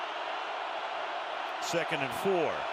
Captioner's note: cheering